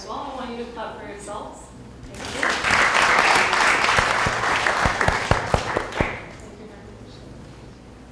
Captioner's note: applause